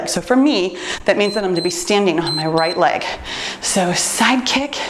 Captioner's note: timer beeps